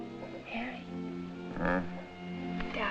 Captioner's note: grunts